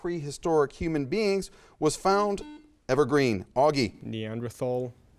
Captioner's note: buzzer chimes